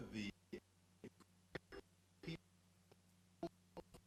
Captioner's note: stuttering audio